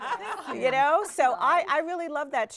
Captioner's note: everyone laughs